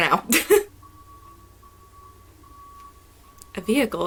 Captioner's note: truck beeping